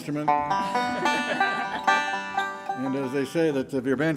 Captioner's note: band members chuckling